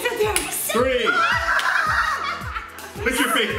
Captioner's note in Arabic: الصراخ